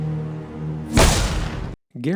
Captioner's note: gunshot